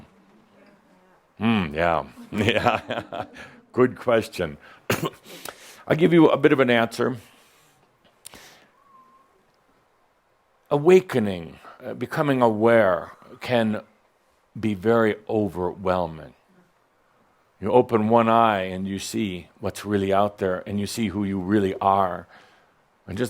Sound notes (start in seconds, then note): 2.0 chuckles